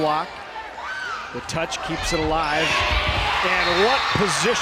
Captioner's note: crowd cheering